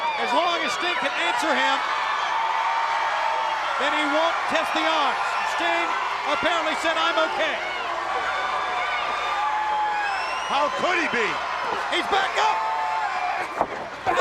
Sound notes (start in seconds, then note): 2.5 crowd cheering; 8.3 crowd cheering